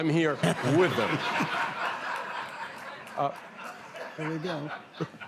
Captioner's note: laughter